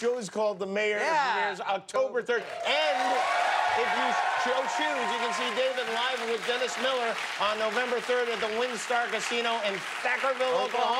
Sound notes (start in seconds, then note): 0.0 applause; 7.2 cheers and applause